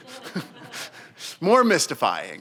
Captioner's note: audience laughs